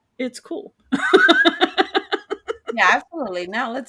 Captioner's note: laughing